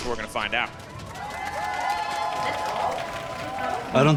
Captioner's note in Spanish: Aplausos